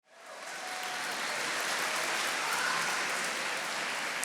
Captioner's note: attendees applauding